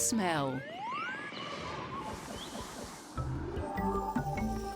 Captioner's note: birds chirping; pleasant music